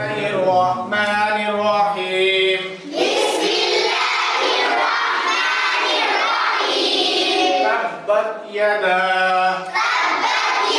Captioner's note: students reciting after the teacher